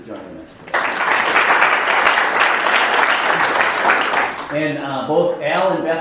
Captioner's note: audience applauding